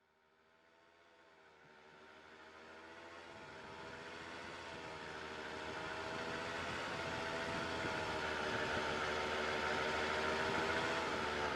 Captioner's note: tractor noise